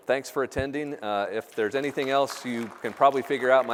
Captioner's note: applause